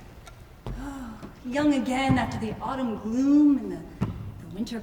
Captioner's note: sighs